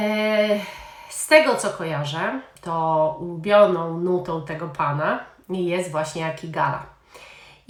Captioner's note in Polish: westchnienie